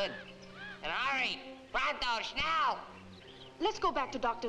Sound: Sammy speaking gibberish

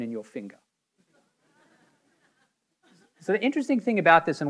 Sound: audience members laughing

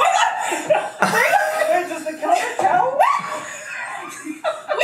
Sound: laughs

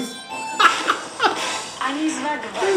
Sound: laugh; foreign language

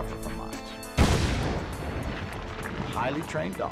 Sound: sounds of explosives

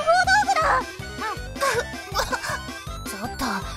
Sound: cough!

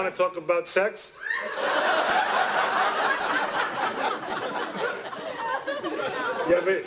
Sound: laughter

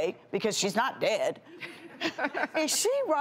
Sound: laughter

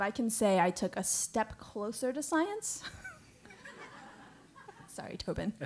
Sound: laugh

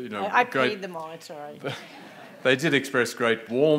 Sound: audience laughing

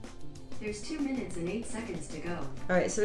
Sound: computer Voice

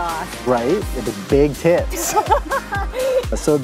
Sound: laughs

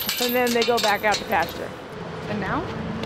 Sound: chain clinking

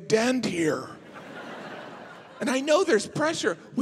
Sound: audience laughing

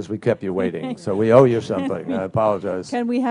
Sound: laughter

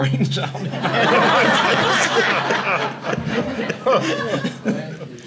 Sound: audience laughing

